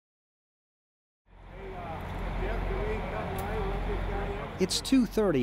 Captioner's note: buses idling